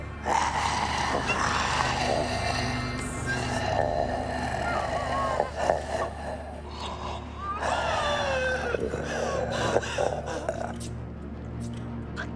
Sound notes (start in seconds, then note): 0.3 mummy snarling; 7.4 Holly whimpering